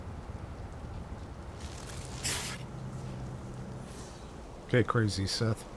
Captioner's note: scoffs